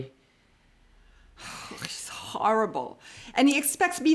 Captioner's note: sighs